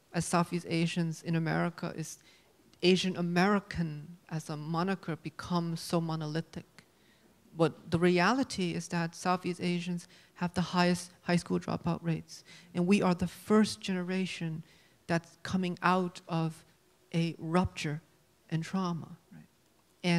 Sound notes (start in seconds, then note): none